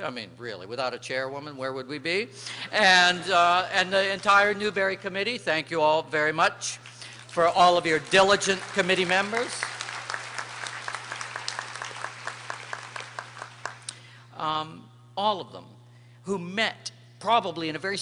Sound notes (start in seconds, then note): 11.7 applause